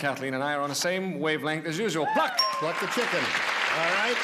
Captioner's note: applause